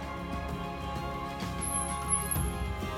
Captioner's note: brakes squealing